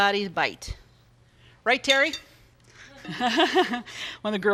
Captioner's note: laughs